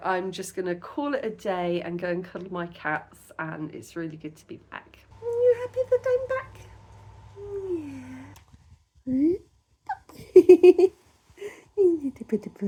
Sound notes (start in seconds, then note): 9.9 laughing